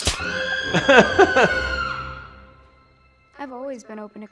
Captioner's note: editor screaming